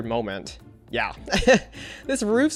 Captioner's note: laughs